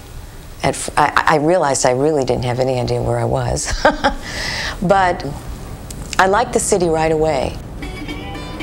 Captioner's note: laughing